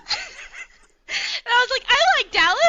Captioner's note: laughter